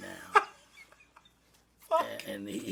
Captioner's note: laughs